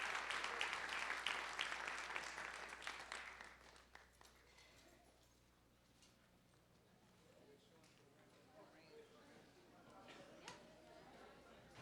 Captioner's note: applause